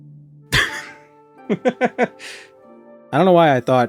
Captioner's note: laughing